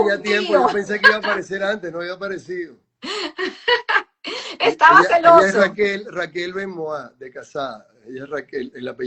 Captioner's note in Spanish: risas